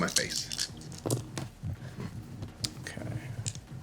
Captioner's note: dice rolling